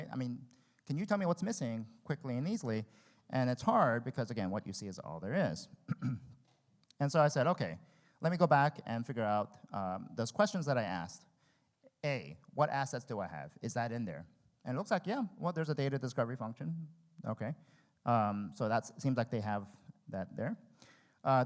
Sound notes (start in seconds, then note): 5.8 clears his throat